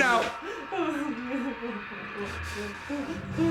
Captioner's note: sobbing continues